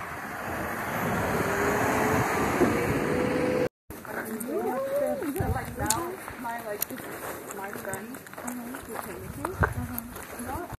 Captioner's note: hiker chatter